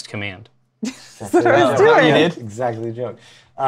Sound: laughs

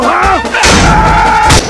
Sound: scream

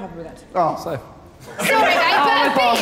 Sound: Sidemen laughing

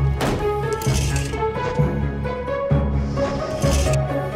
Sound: door slams shut; metal plates sliding

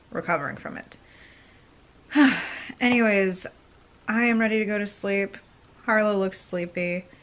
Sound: sighing

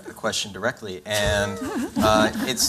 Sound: laughter

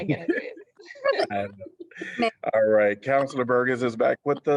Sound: laughter

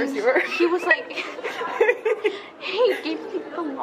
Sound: laughs

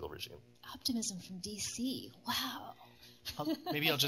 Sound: laughs

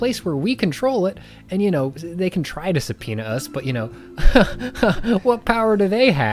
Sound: scoffs

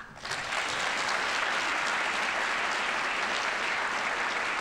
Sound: audience applauding

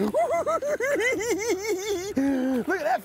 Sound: giggling

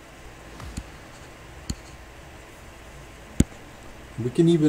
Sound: computer mouse tapping

